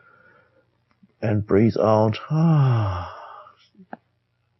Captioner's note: deep exhale